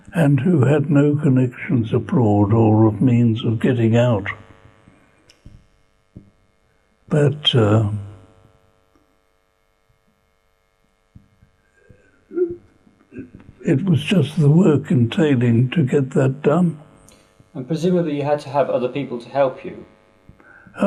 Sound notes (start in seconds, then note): 4.4 pauses for 3 seconds; 9.0 pauses for 6 seconds